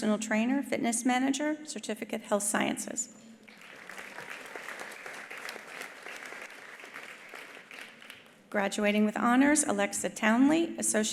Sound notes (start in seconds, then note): 3.4 attendees applauding